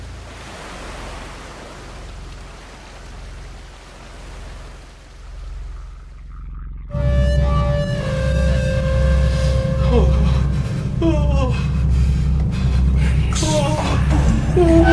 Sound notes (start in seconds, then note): 7.4 Larry shuddering; 7.4 dramatic music